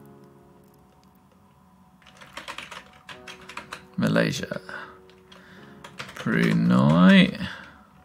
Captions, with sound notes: (keyboard clacks) Malaysia, Brunei.